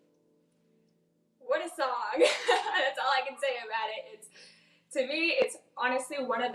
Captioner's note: laughs